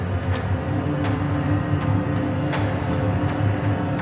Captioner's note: lock clicks